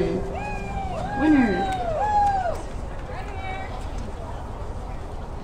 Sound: applause

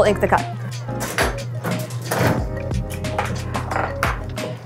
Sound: click and sound of rollers

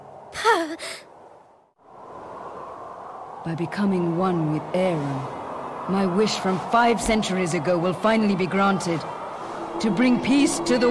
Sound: in-game audio

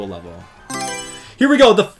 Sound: Mario Selection Sound

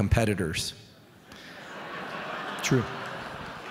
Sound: audience laughing

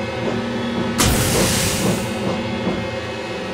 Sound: safety valve bursts

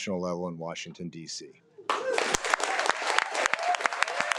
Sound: audience clapping

